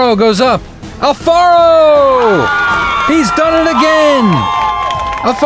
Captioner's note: crowd cheers